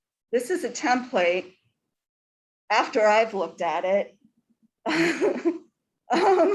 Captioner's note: laughs